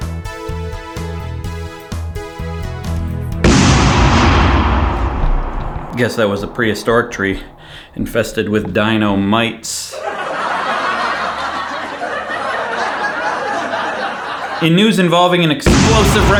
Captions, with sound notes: [explosion] Guess that was a prehistoric tree. Infested with dino mites. [laugh track] In news involving an [explosion] explosive